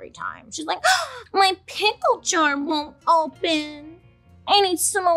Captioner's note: gasps